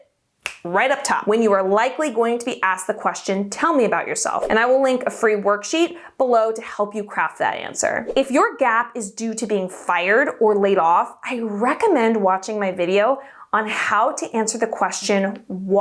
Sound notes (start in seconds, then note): 0.4 fingers snap; 8.0 air whooshing